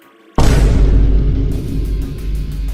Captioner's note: dramatic boom